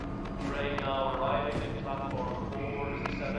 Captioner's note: man over P.A